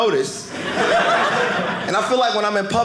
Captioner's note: audience laughing